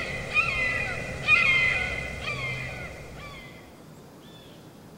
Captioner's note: birds chirping; forest ambience sound